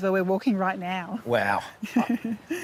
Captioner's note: laughs